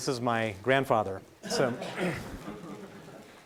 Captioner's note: laughing